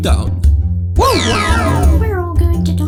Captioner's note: mario whimpers